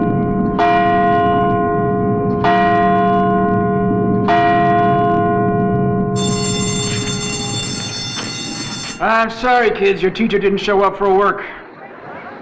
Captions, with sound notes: (bell rings) - I'm sorry kids your teacher didn't show up for work,